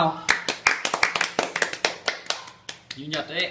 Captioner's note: clap clap clap